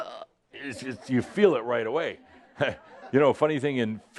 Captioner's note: choking; a few chuckles